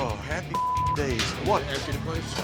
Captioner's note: beep